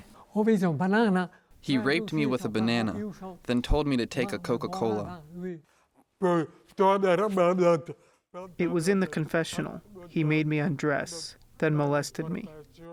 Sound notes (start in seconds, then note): 1.5 through translator; 7.2 through translator